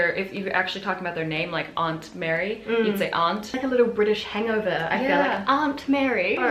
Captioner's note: British accent